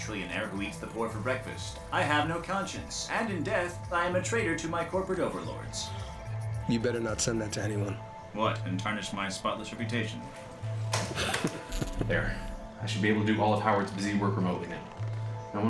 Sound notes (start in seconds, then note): 10.3 key slam; 10.9 chuckling